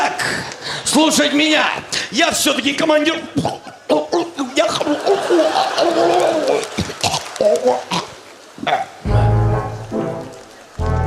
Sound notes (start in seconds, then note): 3.3 gurgle